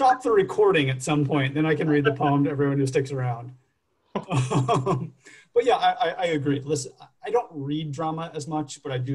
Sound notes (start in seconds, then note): 4.1 chuckles